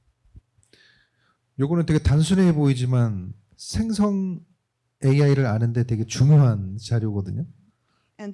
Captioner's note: speaking korean